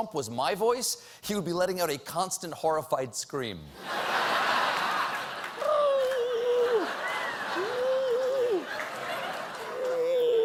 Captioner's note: laughter